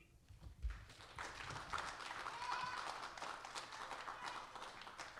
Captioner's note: audience applauding